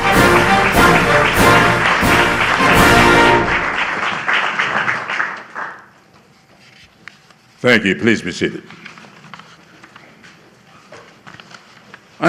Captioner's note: applause